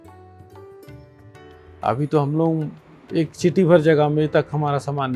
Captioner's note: speaking foreign language